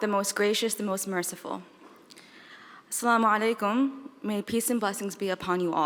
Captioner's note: speaking in foreign language